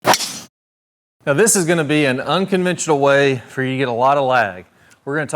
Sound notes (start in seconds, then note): 0.0 golf club smacking golf ball